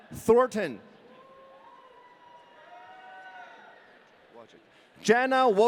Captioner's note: audience cheering